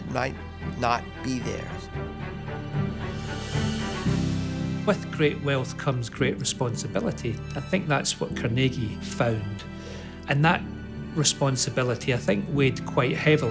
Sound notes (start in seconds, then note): 5.4 Voz en off